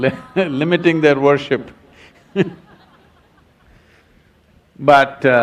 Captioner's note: laughs